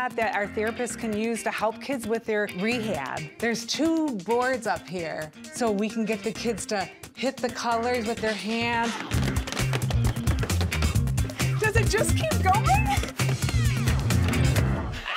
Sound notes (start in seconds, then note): 9.2 hands slapping